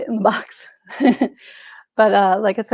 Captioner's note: chuckles